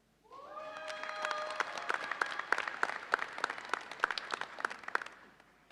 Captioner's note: audience cheers and applauds